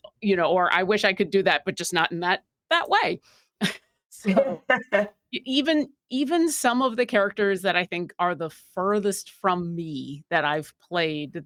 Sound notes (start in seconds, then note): 4.2 chuckling